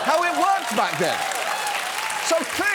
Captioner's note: studio audience cheers, applauds